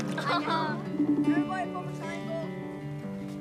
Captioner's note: skype dial tone plays